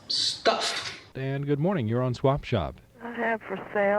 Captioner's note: radio program audio